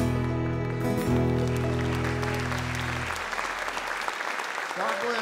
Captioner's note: audience Applause